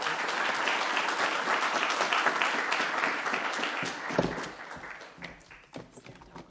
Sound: applause

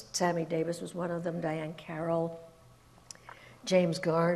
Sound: none

